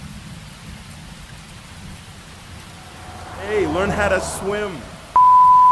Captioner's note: car passing